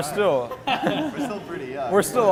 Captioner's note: laughs